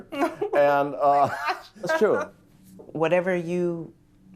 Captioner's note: laughs